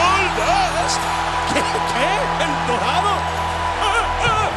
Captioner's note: laugh